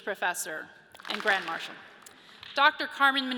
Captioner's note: audience claps